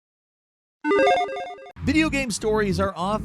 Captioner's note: electronic chiming